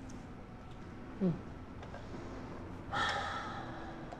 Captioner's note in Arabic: تنهد